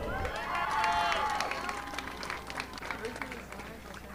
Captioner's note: audience applauding